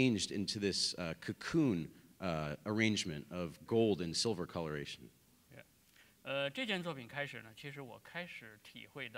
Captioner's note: speaking in Chinese